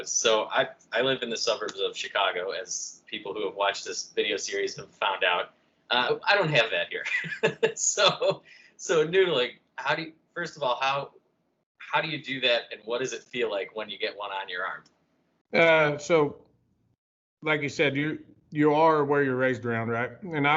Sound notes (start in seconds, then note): 7.0 laughter